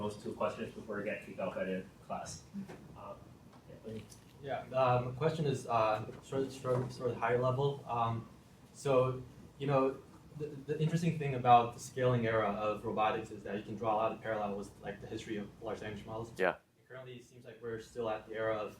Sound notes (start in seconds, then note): 3.3 background static continues